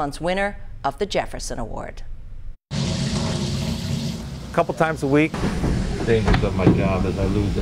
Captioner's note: water running... ... sound fades